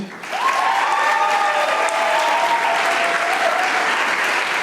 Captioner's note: audience applauding